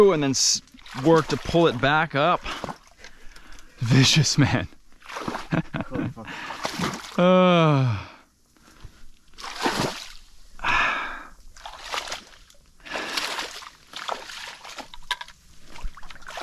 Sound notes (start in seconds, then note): 5.4 chuckles